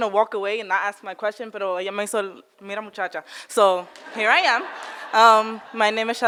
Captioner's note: foreign language; foreign language